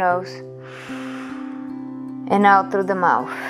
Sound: inhaling

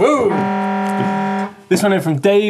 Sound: horn shouting

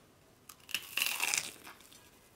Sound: crunchy

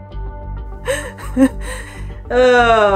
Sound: background music; laughs

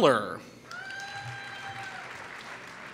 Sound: applause

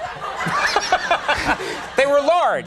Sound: Conan laughs

